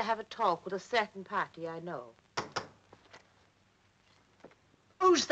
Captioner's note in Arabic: طرق الباب